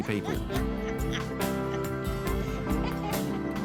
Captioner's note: laughs